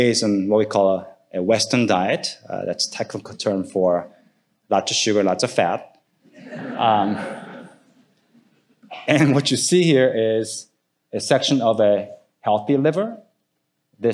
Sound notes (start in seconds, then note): 6.3 audience laughing